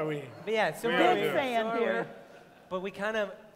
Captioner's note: laughter